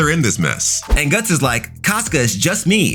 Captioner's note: air whooshing